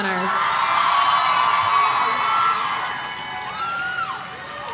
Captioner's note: audience cheering